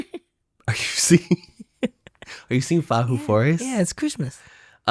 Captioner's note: laughs